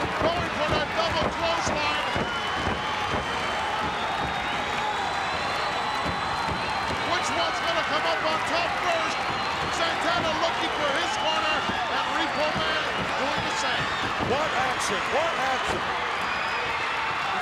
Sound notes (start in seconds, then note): 2.1 crowd yelling